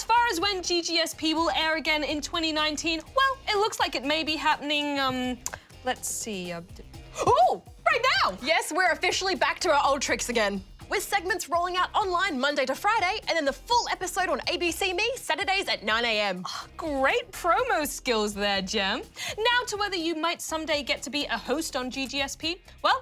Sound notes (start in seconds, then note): none